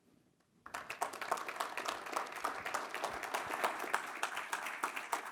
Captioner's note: audience applause